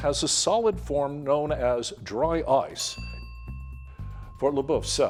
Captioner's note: bell dinging